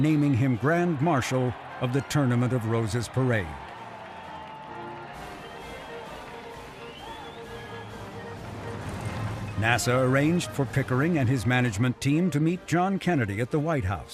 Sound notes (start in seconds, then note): 7.2 people cheering; 7.2 people whistling; 9.7 upbeat music